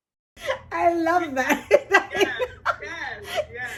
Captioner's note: laughs